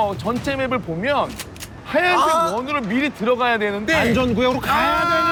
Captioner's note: argh!